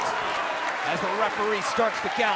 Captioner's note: cheers & applause